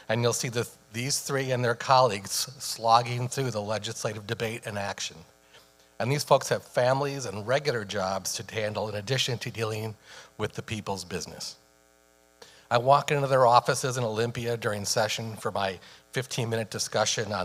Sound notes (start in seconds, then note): none